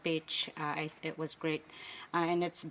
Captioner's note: speaking Indigenous Language